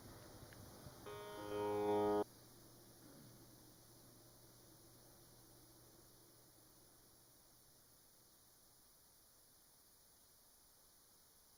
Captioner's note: audio cut